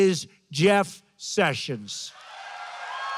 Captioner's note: applause